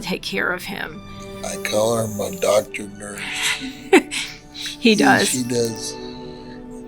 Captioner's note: laughs